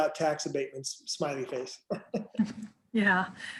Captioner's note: laughs